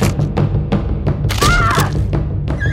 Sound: rochelle screaming

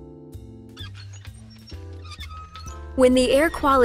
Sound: noise of game; creaking swing

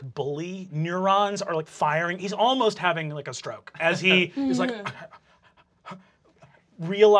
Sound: rapid gasping

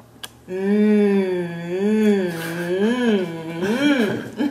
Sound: laughter

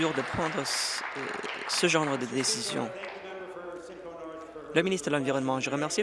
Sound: applause

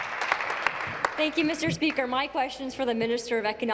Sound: applause; cheers

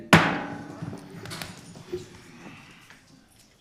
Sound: gavel bangs

